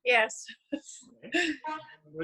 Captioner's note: chuckles